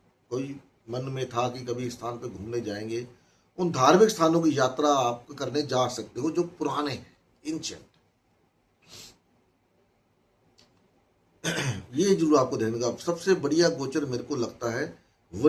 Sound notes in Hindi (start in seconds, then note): 8.8 नाक से की जाने वाली आवाज़; 11.4 गला साफ़ करने की आवाज़